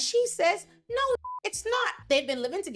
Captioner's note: beep